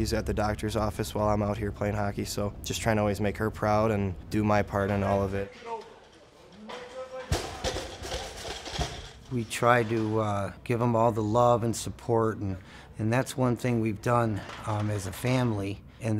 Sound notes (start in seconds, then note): 7.5 clanging